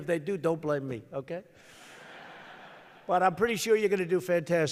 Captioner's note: laughter